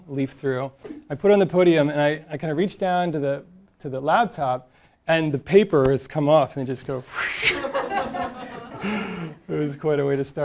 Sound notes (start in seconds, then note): 6.9 making a whooshing sounding; 7.4 audience laughing